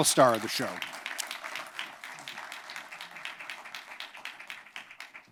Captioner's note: applause